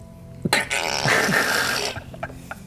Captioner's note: angry duck laugh